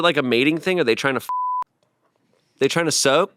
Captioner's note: beep